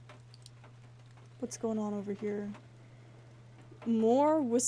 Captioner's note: rhythmic Huffing